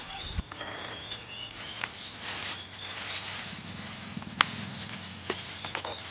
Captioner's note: rustling leaves